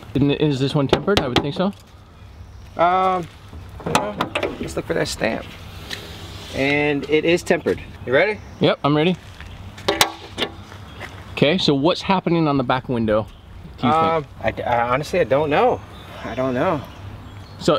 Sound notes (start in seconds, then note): none